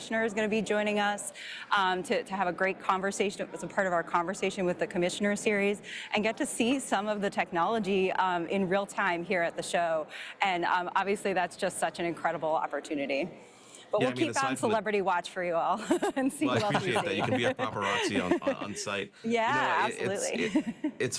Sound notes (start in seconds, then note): 15.8 chuckles; 20.0 laughs